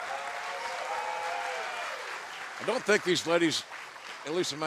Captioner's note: cheers and applause